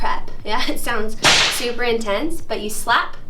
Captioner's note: slap